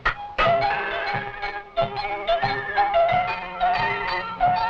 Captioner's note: pots clanging rhythmically